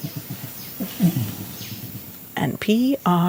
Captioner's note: orangutan softly grunts